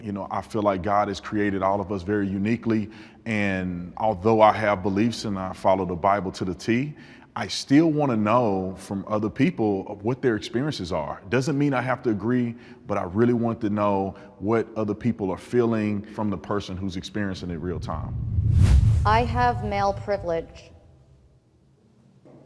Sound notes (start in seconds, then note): 17.6 whoosh air